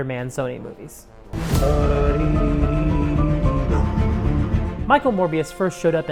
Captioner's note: Jared Leto tunelessly humming “Für Elise”